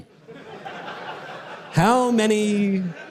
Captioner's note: audience laughter